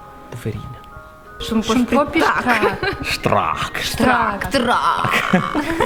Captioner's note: in Italian dialect